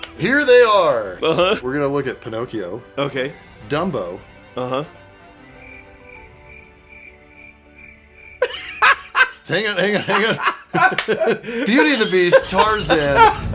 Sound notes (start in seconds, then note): 5.5 crickets